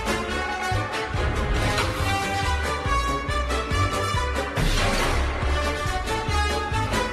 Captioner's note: air whooshes; lively music